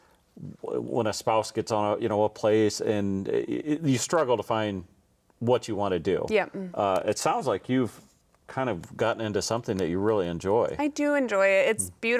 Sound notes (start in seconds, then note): none